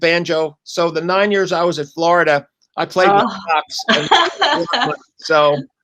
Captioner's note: laughter